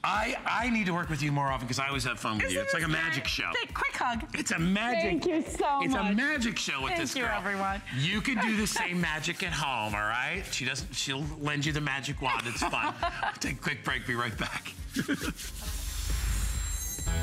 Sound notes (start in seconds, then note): 12.2 laughter